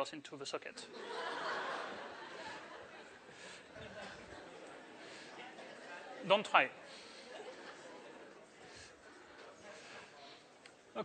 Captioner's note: laughter